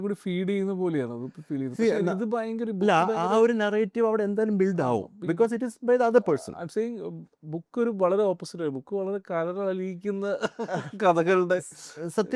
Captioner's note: laughs